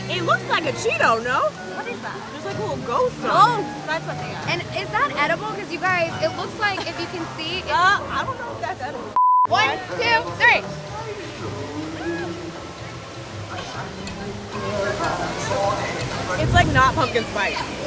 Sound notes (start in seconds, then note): 14.1 clock ticking